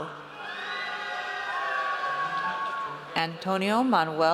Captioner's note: audience cheers